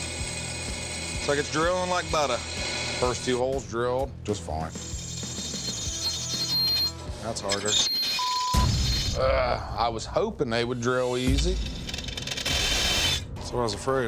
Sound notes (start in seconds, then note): 4.8 grinding noise; 11.0 grinding noise